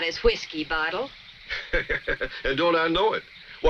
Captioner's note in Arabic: يضحك